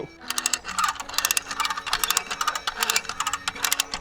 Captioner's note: gears clunking